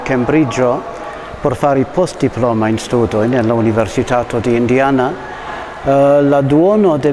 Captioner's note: in Spanish